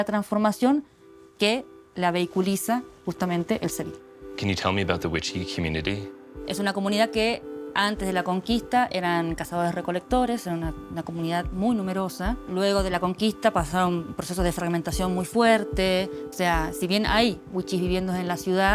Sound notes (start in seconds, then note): 6.5 speaking Spanish